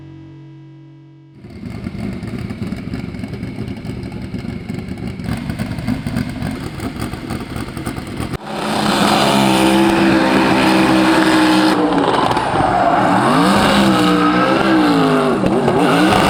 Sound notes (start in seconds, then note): 0.3 engine popping; 8.4 engine revving and tires squealing